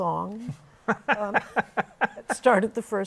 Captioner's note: laughter